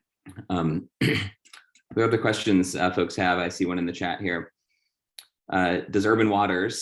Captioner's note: cough